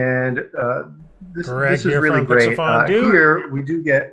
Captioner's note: indistinct conversation